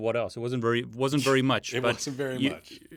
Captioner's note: chuckles